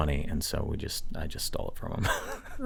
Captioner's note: chuckles